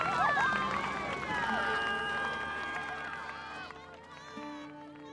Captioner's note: cheering